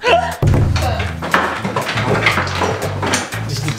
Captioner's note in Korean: 두둥, 효과음; 의자 소리